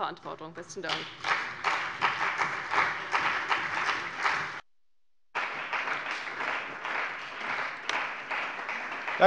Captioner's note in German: Beifall bei der CDU und dem BÜNDNIS 90/DIE GRÜNEN